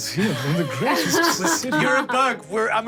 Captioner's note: laughing